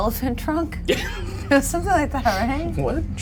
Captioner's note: chuckles